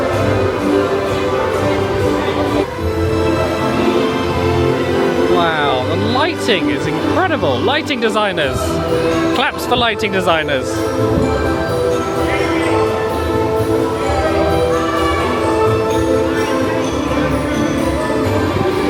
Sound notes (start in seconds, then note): 0.3 whimsical music; 11.4 crowd chattering; 11.4 whimsical music